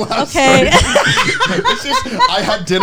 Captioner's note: all laughing